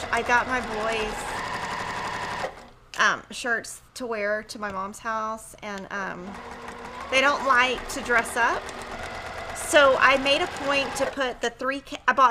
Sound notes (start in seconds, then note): 0.0 machine whirrs; 6.2 sewing machine hums